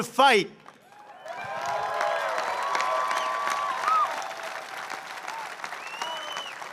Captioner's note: applause